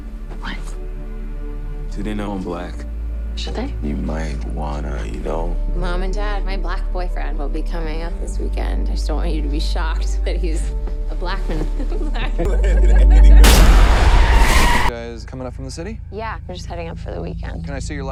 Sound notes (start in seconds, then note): 11.5 laughing; 13.4 loud crash and squealing noise